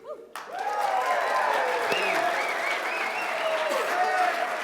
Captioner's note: cheers and applause